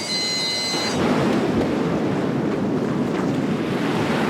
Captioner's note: water sloshing